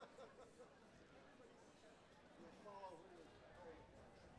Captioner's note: attendees chattering